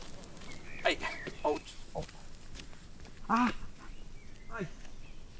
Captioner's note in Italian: Altre lamentele di dolore